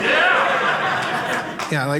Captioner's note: audience member cheering